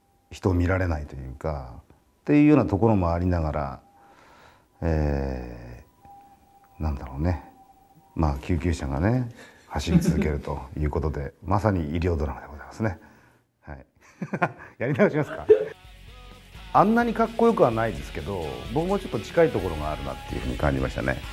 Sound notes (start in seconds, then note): 4.1 the sound of ambulance sirens; 15.1 laughs